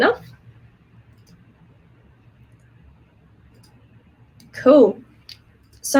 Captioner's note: mouse clicking